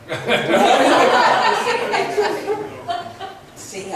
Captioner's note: laughs